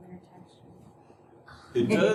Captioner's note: laughter